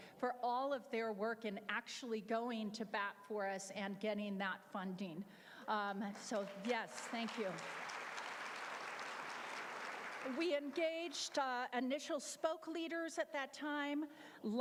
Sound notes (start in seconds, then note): 7.8 applause